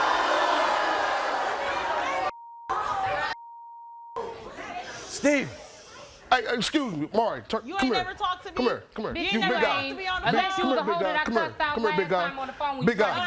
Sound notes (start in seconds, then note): 2.3 beep; 2.6 shouting